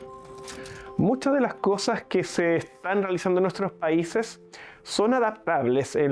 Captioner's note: Spanish